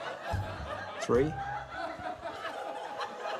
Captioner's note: laughter